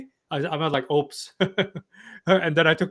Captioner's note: laughs